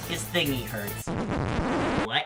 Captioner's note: record needle scratching